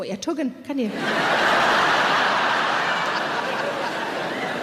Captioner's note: audience laughing